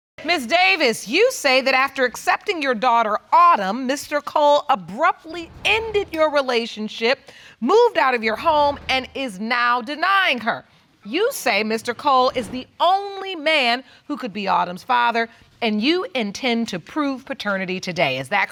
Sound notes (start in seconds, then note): none